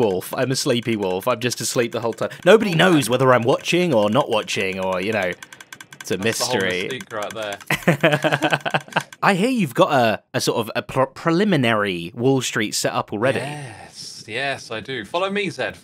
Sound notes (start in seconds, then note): 7.6 BOTH laugh